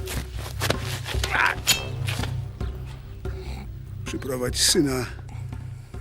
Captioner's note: man groans, dagger pulls from sheath